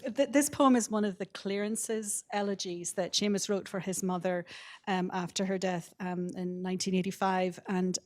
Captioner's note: none